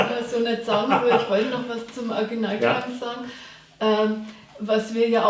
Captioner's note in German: lacht